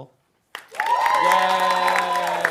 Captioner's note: audience cheering and applauding